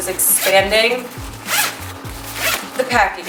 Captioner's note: zipping